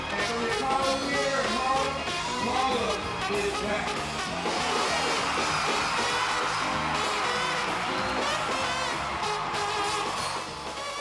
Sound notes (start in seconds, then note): 0.0 jazz music; 5.0 crowd cheering